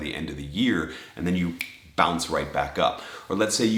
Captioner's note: snapping